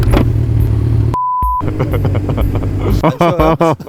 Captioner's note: hahaha